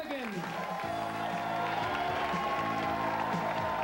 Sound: audience cheering

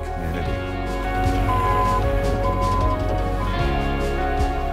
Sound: forklift beeping; upbeat music in background

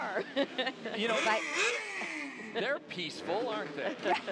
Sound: revving engines

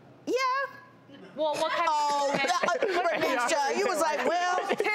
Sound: laughing

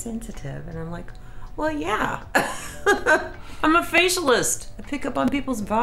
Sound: laughs

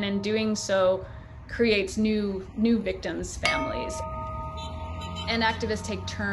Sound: bell tolls

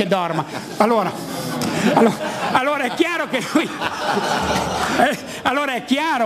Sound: laughing

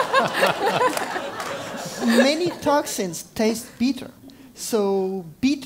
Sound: laugh

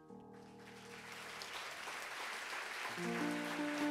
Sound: audience applauds

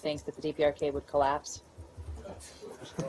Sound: laughter

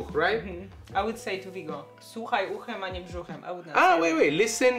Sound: speaks Polish

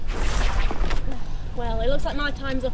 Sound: portal noise

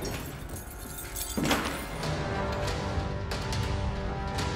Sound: knee thuds; keys jingling

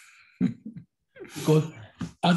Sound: chuckles

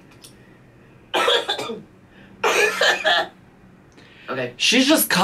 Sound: coughs

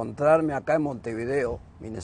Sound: speaking Spanish

